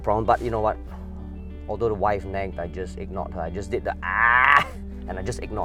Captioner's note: agh